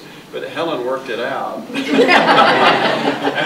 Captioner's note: audience laughing